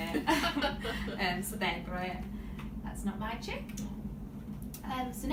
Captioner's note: laughs